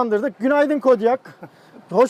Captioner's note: laughs